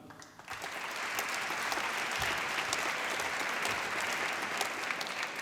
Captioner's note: applause